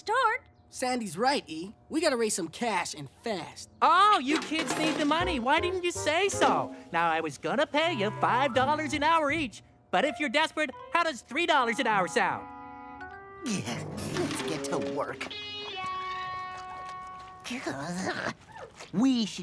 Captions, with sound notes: Why didn't you say so? Now I was going to pay you five dollars an hour each, but if you're desperate, how does three dollars an hour sound? Let's get to work. (grumble) We should be making that commercial. We've got imports, domestics, classic automobiles.